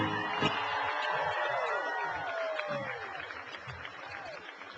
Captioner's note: cheering and applause